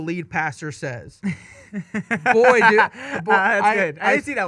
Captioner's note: laughing